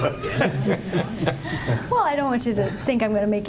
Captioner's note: laughing